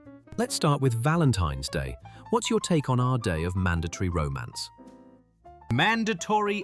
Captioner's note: none